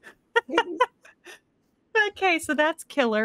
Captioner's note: Deborah laughs